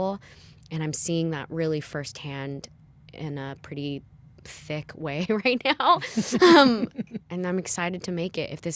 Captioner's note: laughter